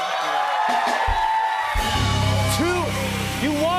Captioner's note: cheers and applause